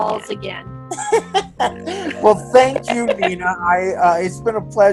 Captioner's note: laughs